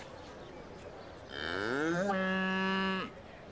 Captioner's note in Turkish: Hayvan sesi